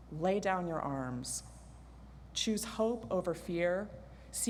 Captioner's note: none